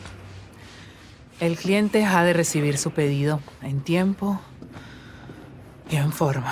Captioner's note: none